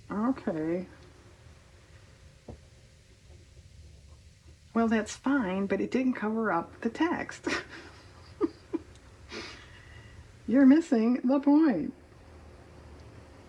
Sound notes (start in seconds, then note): 7.4 laughs